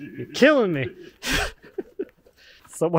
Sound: both laughing

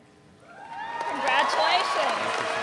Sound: audience cheering

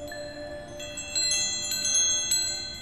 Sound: wind chimes

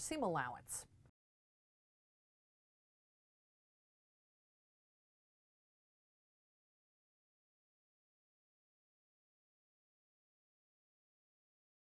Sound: no Sound Present

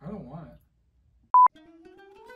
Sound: beep

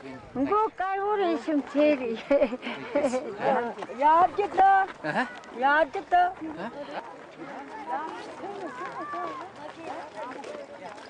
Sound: more Tibetan talking

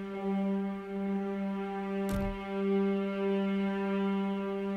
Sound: door closes

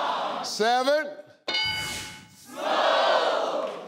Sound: bell clanging

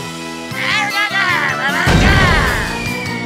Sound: grunting

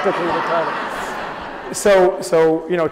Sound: audience laughs

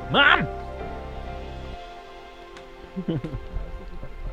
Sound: laughter

